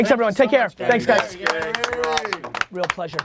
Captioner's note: group applause